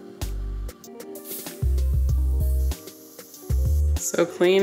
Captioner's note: can sprays